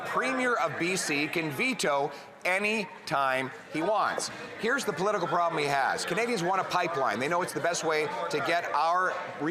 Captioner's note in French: voix de l'interprète